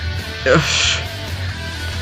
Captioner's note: sighs